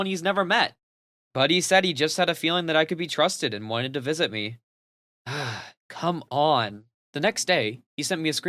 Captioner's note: sigh